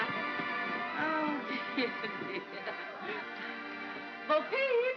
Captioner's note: laughs